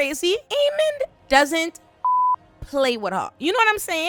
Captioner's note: beep